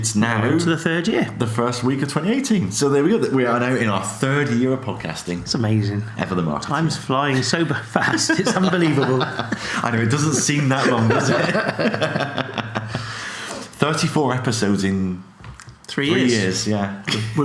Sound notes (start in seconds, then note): 12.1 laughing